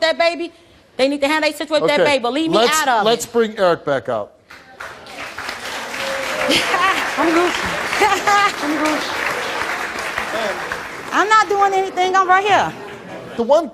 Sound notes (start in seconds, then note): 4.5 audience applauds